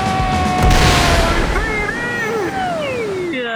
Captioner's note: announcers cheer; explosion